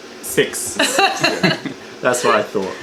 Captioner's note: laughter